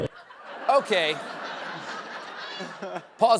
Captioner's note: laughs